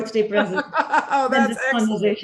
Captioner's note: laughing